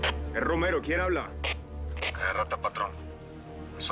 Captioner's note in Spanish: Voz en la radio